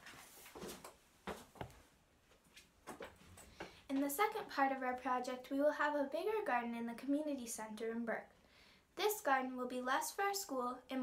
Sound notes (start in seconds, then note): 1.2 footsteps receding